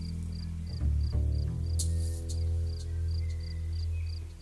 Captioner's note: odgłos świerszcza, niepokojąca muzyka